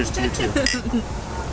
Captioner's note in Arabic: ضحك